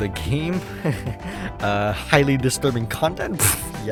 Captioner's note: chuckles